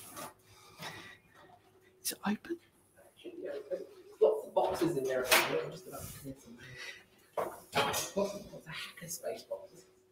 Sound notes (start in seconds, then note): 2.0 whispering; 3.0 background chatter